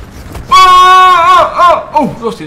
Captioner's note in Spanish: grito